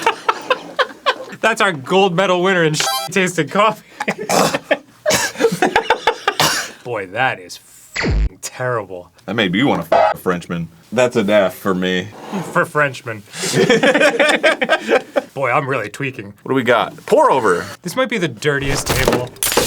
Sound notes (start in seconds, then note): 4.2 coughs